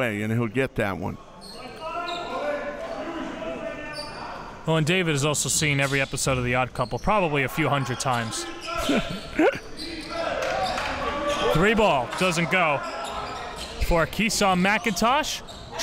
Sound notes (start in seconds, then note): 8.8 laughs